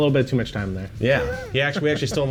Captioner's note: laughing